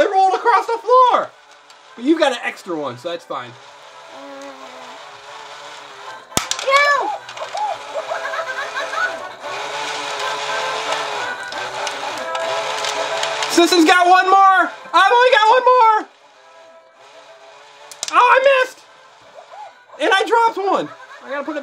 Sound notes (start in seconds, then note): 7.4 caterpillar laughs; 8.1 animated music